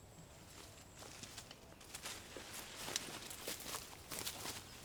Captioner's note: grass crunching